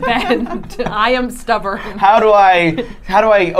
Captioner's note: laughing